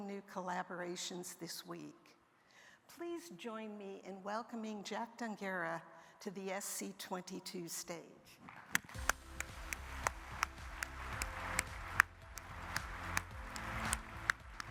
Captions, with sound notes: new collaborations this week. Please join me in welcoming Jack Dongarra to the SC22 stage. (upbeat music) (audience applauding)